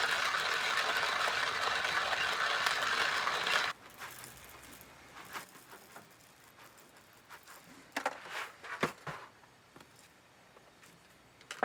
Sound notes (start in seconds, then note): 4.2 coffee beans pouring